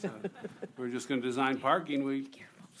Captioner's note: laughter